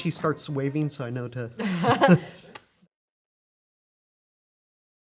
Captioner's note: both laughing